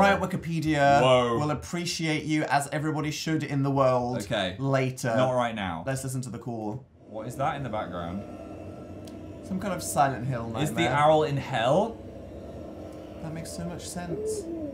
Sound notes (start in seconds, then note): 6.9 weird muffled noises horror movie style